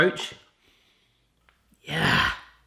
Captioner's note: sniffing